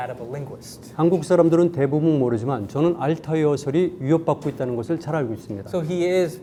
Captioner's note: speaking in Korean